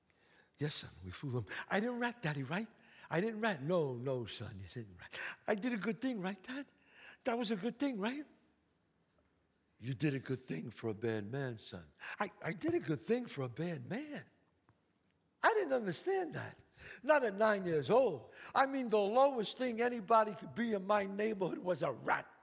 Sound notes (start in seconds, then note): none